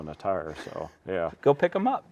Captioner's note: laughing